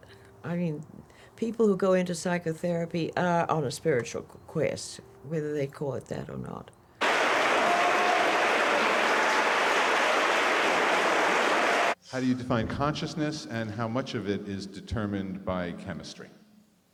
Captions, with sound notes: I mean, people who go into psychotherapy are on a spiritual quest, whether they call it that or not. (audience applauds) - [Voiceover] How do you define consciousness, and how much of it is determined by chemistry?